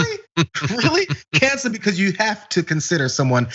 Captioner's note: laugh